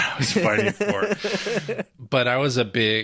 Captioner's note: laughing